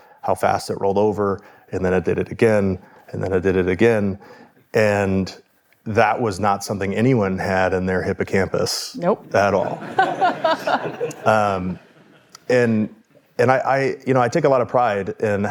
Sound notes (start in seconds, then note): 9.4 audience laughing